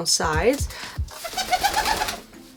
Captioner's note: wings flapping